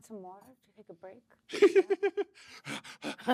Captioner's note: laughter